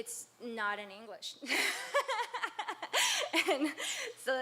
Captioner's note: laughs